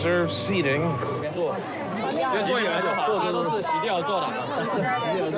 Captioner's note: indistinct crowd chatter